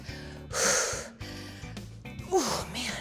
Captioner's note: exhales